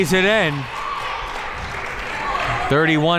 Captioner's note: clapping